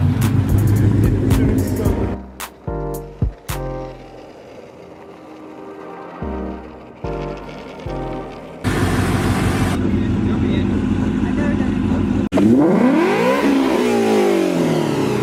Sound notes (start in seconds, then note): 12.5 vrooooom